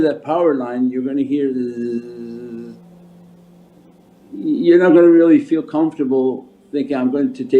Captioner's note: electric buzzing